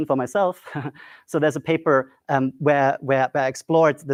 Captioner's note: laughs